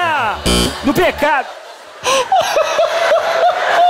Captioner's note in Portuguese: campainha